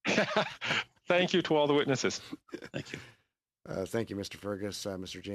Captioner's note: laughter